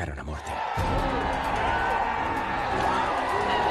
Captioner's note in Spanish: Gritos